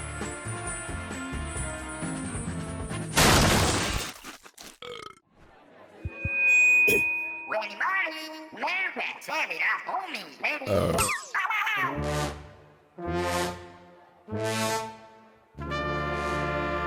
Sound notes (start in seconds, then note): 10.6 someone's belch rudely interrupts his speech